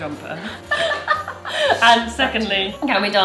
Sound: both laughing

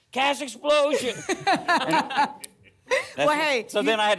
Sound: laughter

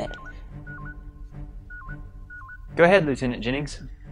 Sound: hailing alert

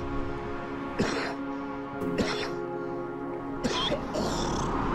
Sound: coughing

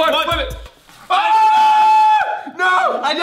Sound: screaming

